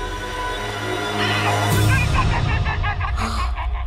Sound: chittering

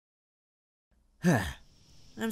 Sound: sighs

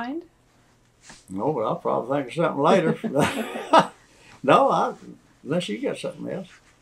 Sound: laughter

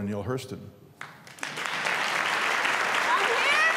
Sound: applause

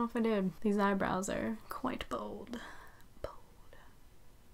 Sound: whispers

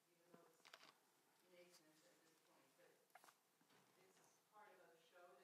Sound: speaking faintly

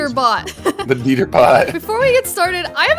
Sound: laughs

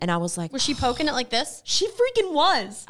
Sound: moans

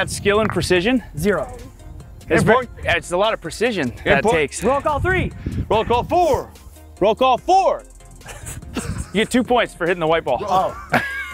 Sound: laugh

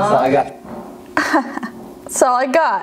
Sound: laughs

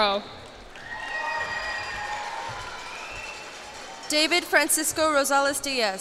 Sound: cheers and applause

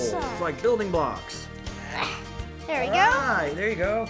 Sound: grunting

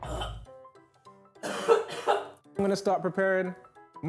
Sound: coughs

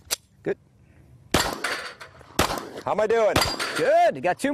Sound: gunshots

